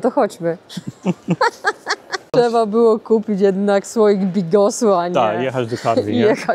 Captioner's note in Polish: śmiech